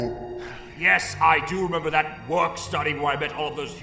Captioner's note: sigh